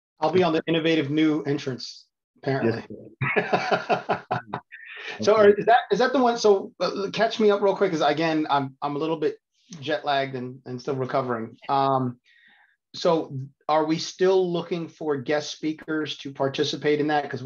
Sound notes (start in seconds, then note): 5.3 chuckling